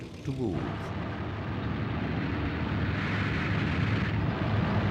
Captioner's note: vehicles rumbling